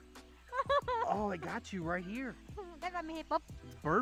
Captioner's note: laughing